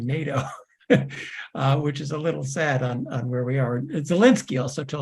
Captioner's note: laugh